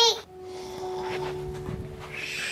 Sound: snoring; lullaby music plays

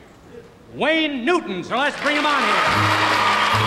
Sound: audience applauds

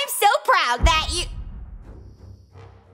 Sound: rumble

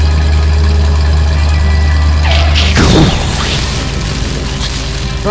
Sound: engine noise; explosion; skid

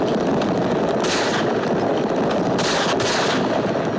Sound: firing continues

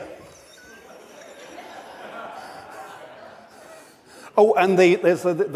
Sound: audience laughs

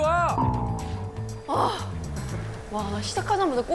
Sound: sighing

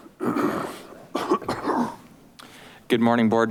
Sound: coughs

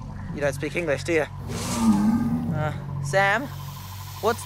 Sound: crocodile snaps; crocodile growls

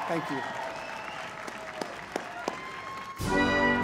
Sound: cheering and applause

